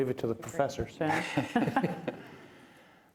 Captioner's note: laughter